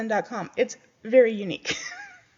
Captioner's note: laughs